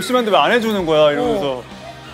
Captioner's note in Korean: 오열